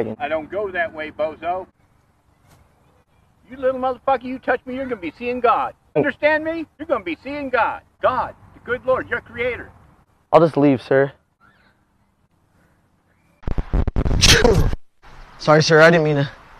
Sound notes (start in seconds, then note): 14.2 sneezes